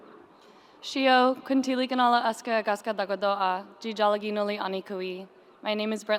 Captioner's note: speaking in foreign language